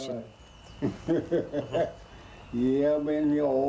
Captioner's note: laughter